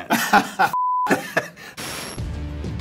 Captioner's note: laugh